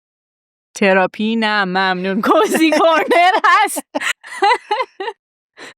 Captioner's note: laughs